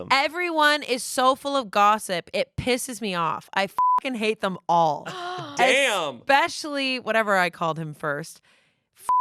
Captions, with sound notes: - "Everyone is so full of gossip. "It pisses me off. "I (beep) hate them all." - Damn. - "Especially," whatever I called him first, "(beep)"